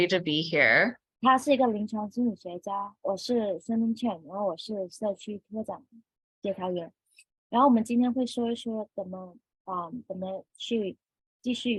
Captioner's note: speaking chinese